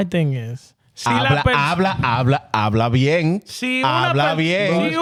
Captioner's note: speaking In Foreign Language